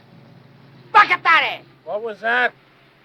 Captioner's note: speaking in foreign language